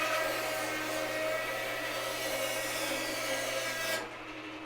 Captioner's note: band saw whirring